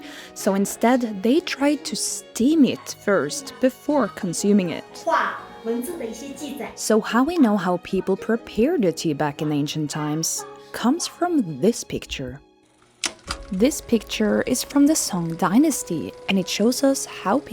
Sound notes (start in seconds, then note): 5.0 speaks Chinese